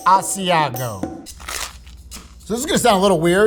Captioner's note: upbeat music; sandwich rustling